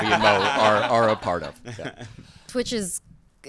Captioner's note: cast laughs